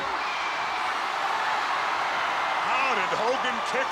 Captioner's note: crowd cheers